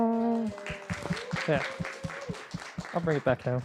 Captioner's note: applause